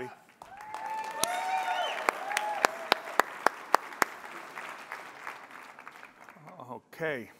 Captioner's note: applause